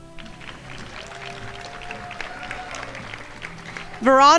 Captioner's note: crowd applauding